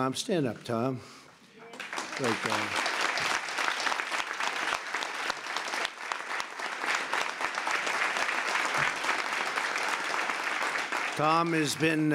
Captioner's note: applause